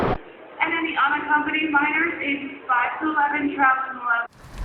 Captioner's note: sound of airline announcements over a loudspeaker